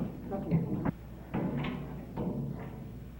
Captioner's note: hammering